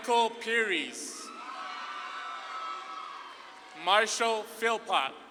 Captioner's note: audience claps and cheers